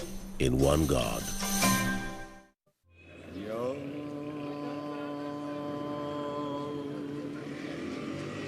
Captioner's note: chanting/praying